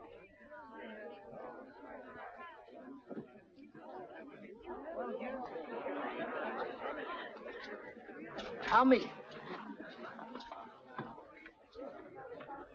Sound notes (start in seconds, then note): 0.8 people chattering